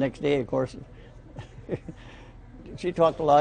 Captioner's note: laughing